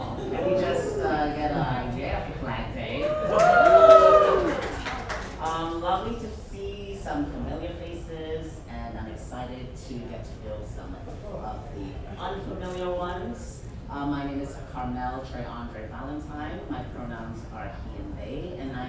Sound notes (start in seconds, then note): 3.0 audience cheers